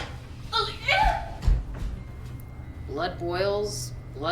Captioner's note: Wilhelmina cries out